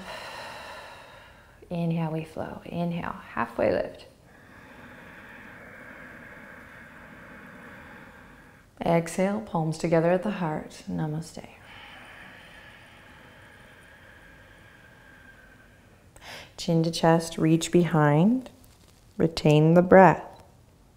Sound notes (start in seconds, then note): 0.0 exhaling; 4.2 inhaling; 11.5 exhaling